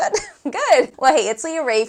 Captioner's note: laughs